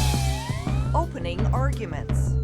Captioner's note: sirens wailing